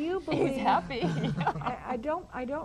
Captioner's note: laughs